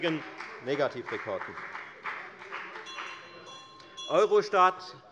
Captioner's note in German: Beifall bei der FDP - Unruhe - Glockenzeichen der Präsidentin